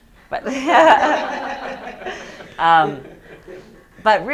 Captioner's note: students laughing